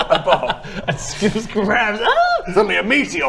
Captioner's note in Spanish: Ahhhhh